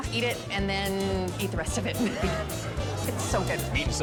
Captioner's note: laughs